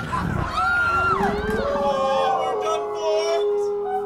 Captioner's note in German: Heulen